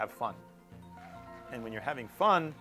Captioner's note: cheering